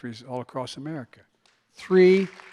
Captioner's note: applause